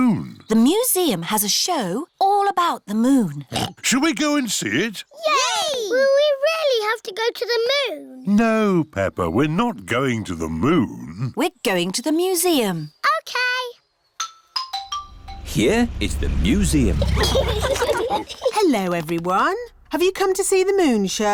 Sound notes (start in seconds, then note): 3.4 oinks